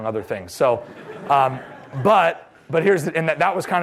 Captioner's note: laughter